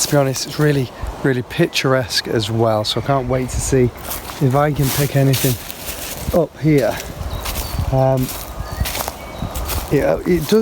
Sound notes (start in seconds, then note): 4.2 birds chirping; 4.2 leaves rustling